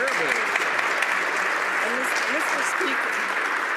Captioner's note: some Applause